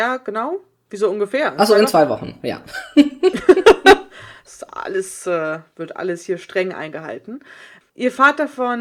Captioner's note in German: beide lachen